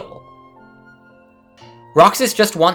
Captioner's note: inhale